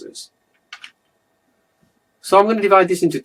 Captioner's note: keyboard clacks